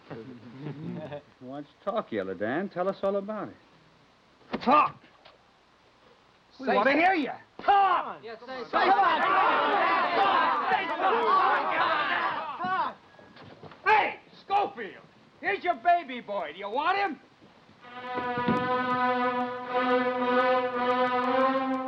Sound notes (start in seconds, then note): 0.4 men chuckling; 8.5 men all yelling; 17.9 dramatic orchestra music